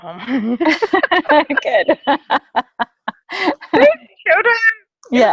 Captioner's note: laugh